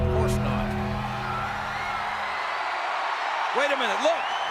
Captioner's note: ominous music; audience cheers